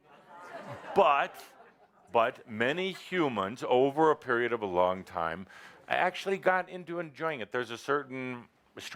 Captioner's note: laughter